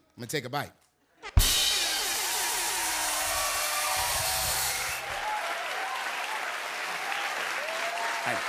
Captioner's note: cheers and applause